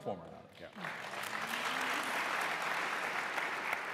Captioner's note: applause